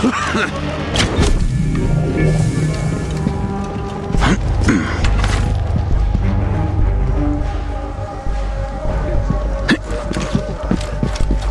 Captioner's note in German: stöhnen